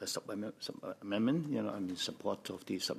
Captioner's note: speaking French